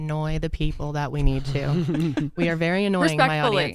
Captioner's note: laugh